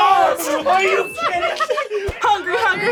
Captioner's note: both laugh